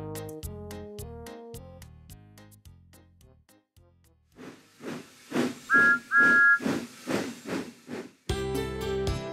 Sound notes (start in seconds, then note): 4.4 wheesh!; 5.7 toot-Toot!